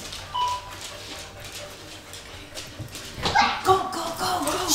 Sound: gadget beeping

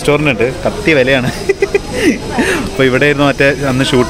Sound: giggling stupidly

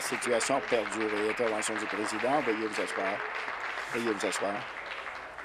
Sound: applause

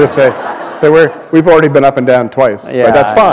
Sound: laughter

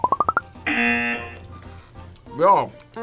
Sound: buzzer

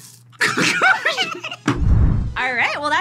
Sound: both laugh

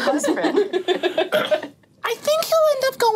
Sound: all laughing

